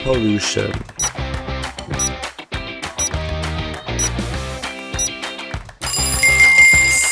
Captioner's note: timer ticking